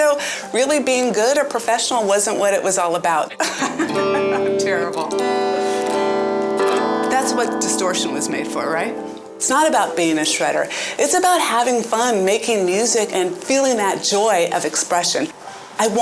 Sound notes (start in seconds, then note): 3.3 laughing; 5.6 guitar strumming